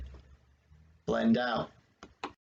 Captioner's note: click